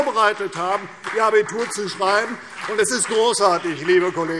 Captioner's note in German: Beifall CDU und BÜNDNIS 90/DIE GRÜNEN